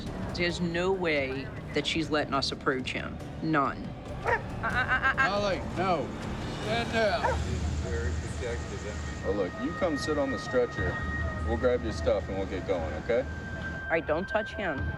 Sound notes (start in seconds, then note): 4.2 dog barking